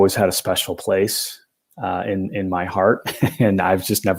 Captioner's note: laughter